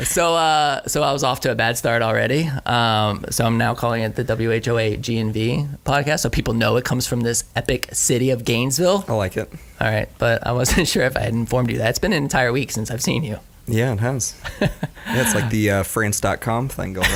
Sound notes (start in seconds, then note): 14.4 laughs